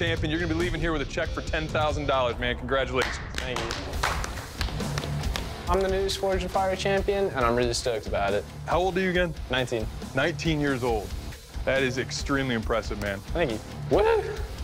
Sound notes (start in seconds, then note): 3.0 applause